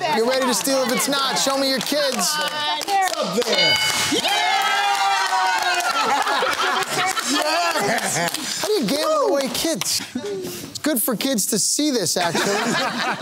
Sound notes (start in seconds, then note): 3.9 cheering